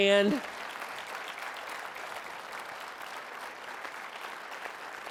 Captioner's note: applause